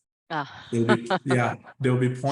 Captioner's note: laughs